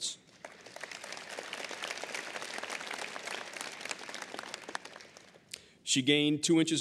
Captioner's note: applause